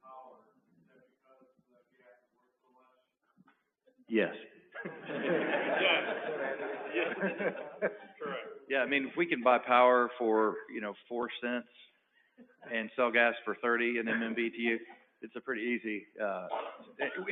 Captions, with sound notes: Is that because the gas is worth so much? - Yes. [LAUGHTER] - Correct. - Yeah, I mean if we can buy power for you know $0.04 and sell gas for $0.30 in MMBTU, it's a pretty easy--